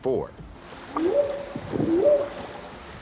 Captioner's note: whooping sound